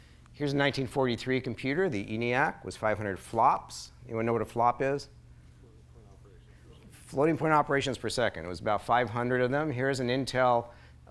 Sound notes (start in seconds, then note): 5.4 soft overlapping chatter